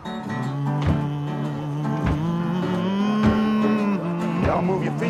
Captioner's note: slow bluesy music; singer humming